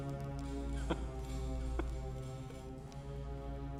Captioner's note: chuckling